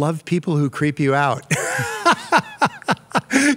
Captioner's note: laughs